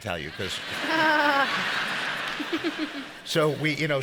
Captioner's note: audience laughs